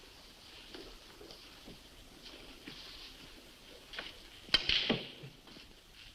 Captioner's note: none